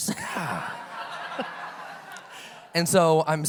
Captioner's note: audience laughs